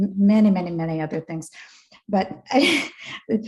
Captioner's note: laughs